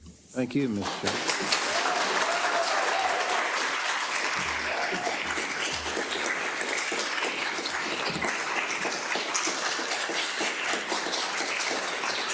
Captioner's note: applause